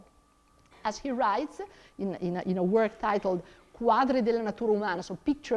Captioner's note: speaks in foreign language